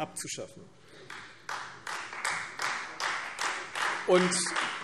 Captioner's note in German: Beifall Freie Demokraten